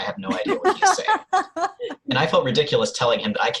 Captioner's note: laughter